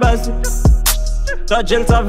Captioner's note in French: tchh